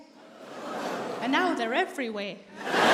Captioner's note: audience laughing